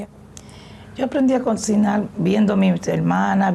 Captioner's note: speaking spanish